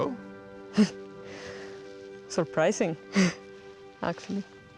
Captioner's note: laughs